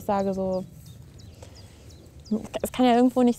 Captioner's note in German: Vogelzwitschern